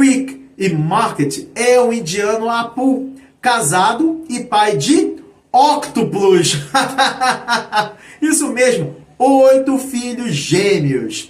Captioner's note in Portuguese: risadas